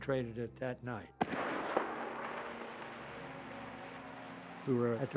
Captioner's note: flares shooting off